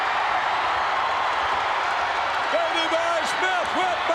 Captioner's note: crowd cheering